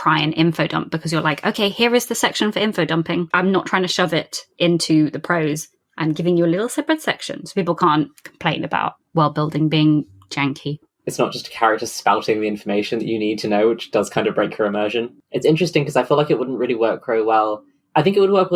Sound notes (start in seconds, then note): none